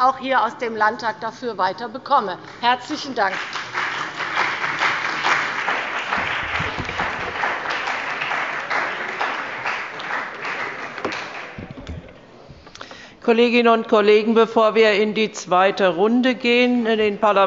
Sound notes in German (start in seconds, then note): 3.1 Beifall bei dem BÜNDNIS 90/DIE GRÜNEN und der CDU